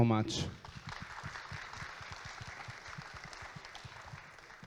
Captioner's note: audience claps